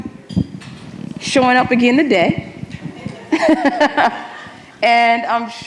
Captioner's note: laughs